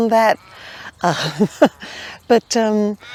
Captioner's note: chuckles